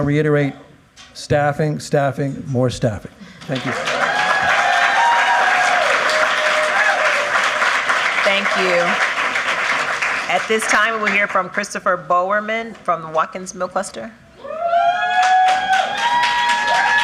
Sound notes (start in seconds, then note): 12.0 applause